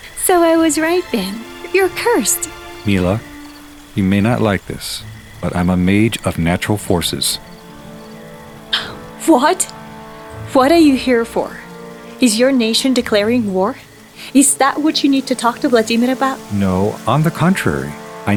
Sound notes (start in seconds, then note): 8.6 gasps